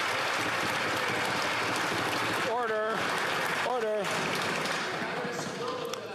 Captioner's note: some Applause